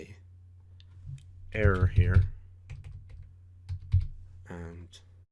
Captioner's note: typing